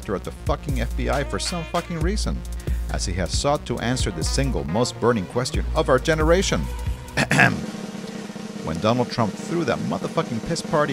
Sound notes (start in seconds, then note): 7.2 ahem; 7.6 drumroll